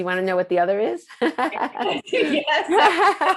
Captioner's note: laughing